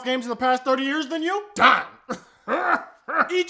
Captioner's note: even weirder laughing